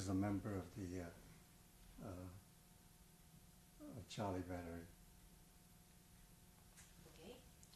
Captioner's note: pauses for 3 seconds